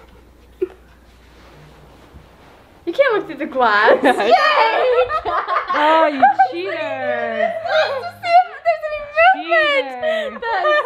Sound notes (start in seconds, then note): 3.9 laughing; 10.0 laugh